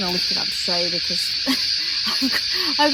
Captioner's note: laughs